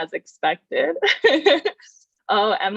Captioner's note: laughs